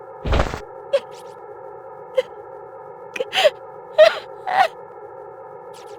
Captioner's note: crying